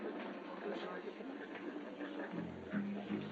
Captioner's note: people chattering